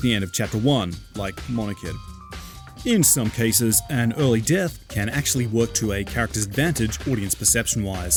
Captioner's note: sniff